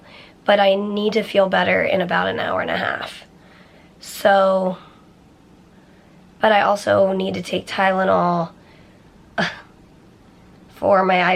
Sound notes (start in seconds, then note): 9.1 chuckles